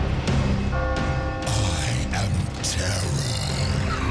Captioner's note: bell tolls